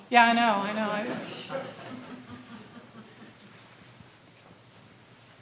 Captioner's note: audience laughing